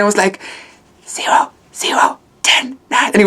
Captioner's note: whispering